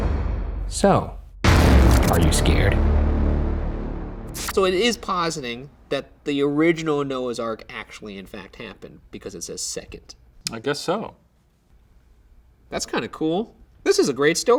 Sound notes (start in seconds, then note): 0.0 dramatic, intense music; 1.4 dramatic whooshing and buzzing